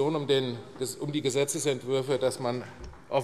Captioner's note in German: none